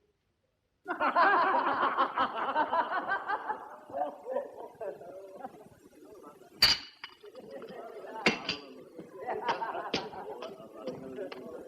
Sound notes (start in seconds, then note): 0.8 boisterous laughter